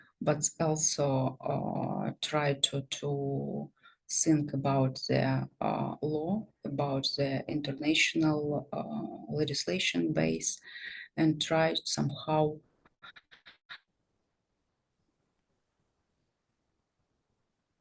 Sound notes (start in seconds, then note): 13.0 static